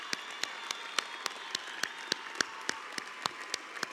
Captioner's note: cheers and applause